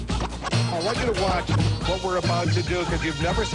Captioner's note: hip Music; voiceover